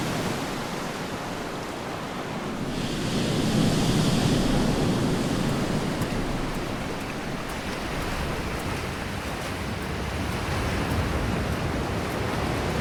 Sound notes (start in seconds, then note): 5.8 footsteps pattering